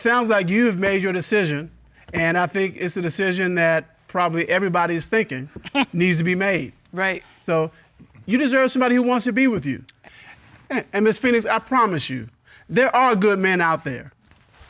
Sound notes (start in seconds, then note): 6.4 scoffs